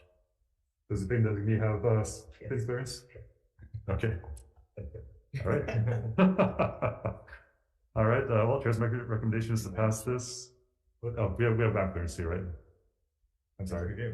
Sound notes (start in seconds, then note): 5.4 both laughing